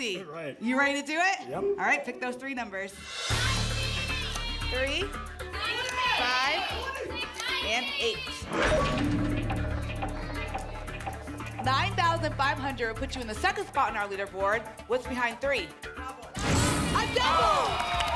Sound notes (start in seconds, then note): 8.6 lock sound